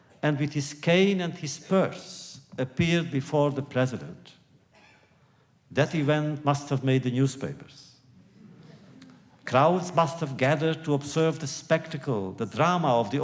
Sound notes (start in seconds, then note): 8.0 laughter